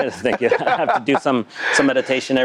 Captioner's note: laughter